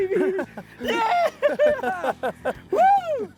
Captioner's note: cheering